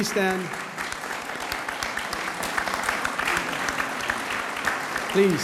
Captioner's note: audience applauds